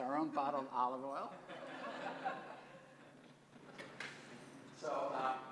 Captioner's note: laugh